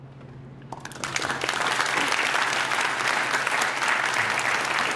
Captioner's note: applause